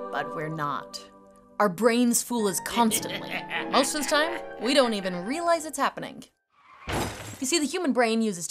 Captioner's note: crash